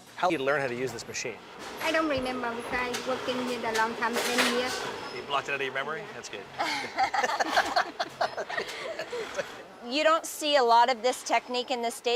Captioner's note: laughter